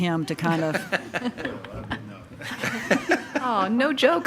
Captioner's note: attendees laugh